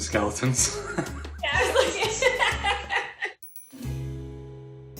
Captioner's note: laughs; light jazz music